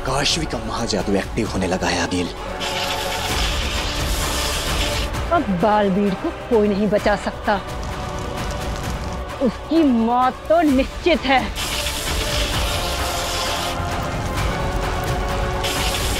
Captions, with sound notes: Kaashvi's Mahajadu is getting activated, Aageel. Nobody can save Baalveer now. He is going to die for sure. [current flowing]